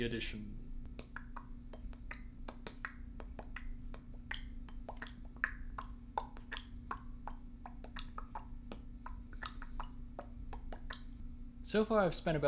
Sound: bored Mouth Noises

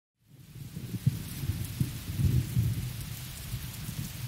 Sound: loud thunder

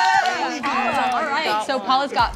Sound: cheering

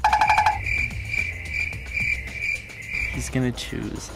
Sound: crickets rustling

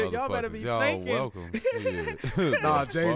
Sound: laughs

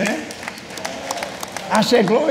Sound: congregation clapping

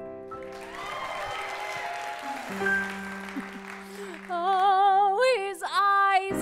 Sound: applause; laugh

